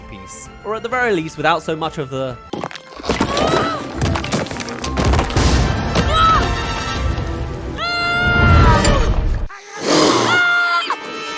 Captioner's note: screaming Compilation